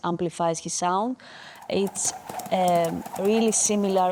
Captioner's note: coconuts thumping